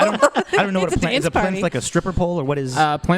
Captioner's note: laughter